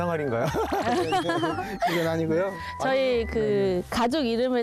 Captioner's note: laugh